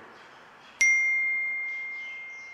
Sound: cell phone chime

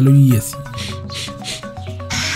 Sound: sniffs

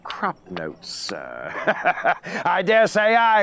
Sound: laughs

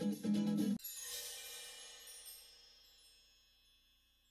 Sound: twinkling sounds

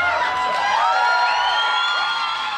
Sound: applause and cheers

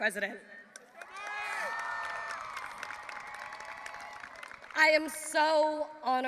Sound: audience applauding and cheering

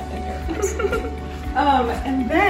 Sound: giggling

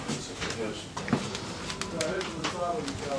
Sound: muffled chatter

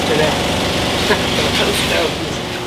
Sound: chuckle

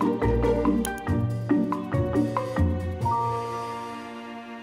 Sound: mouse clicks

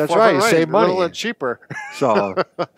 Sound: laughs

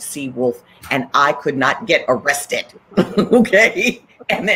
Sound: laughs

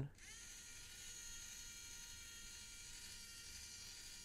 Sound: motor whirring

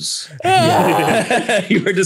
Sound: laughing

